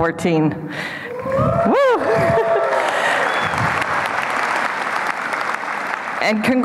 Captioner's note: applause and cheering